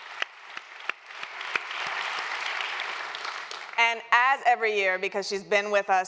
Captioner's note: applause